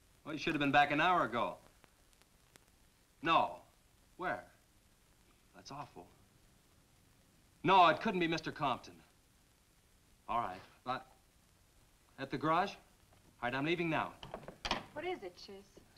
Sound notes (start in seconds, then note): none